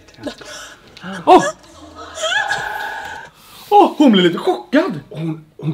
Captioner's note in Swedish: skriker till